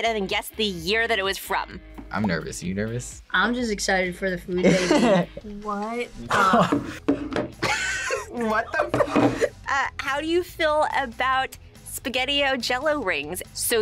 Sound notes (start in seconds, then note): 4.6 laughs; 7.6 both laugh